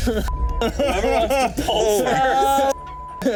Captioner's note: all laughing